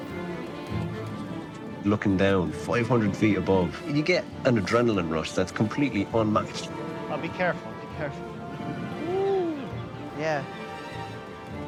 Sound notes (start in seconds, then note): 2.0 voice-over